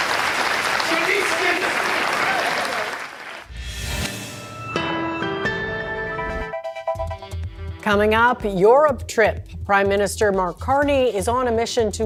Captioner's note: cheers and Applause